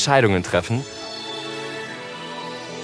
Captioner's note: spherical sounds